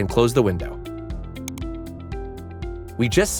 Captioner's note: cursor clicks